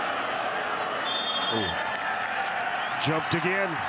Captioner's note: referee blows whistle